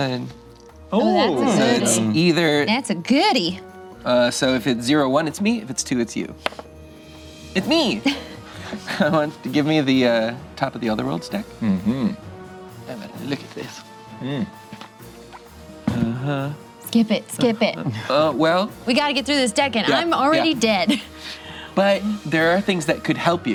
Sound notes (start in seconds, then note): 6.5 dice clatters